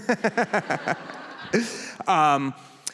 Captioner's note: laughter